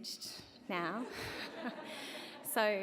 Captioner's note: laughter